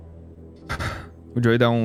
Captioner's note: sighs